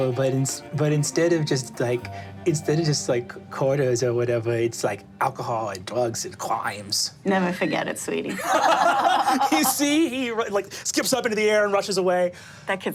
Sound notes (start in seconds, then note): 8.3 group laughing